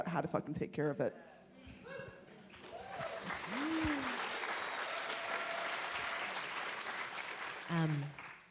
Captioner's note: audience cheer and applaud